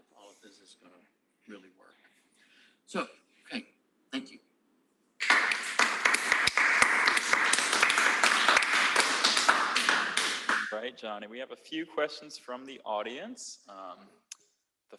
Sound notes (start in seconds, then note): 5.2 applause